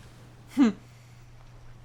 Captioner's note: chuckles